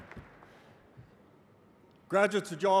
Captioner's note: applause